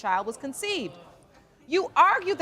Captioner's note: audience murmuring